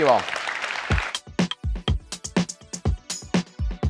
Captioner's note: applause